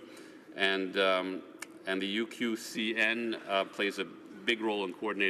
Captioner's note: speaking French